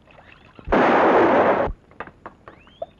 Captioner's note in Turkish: Av tüfeği patlama sesi